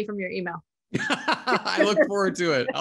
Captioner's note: laughing